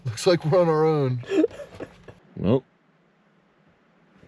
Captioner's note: laughs